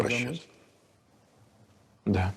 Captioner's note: speaking russian